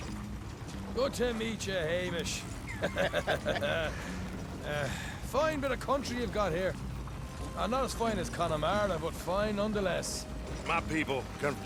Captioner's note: laughs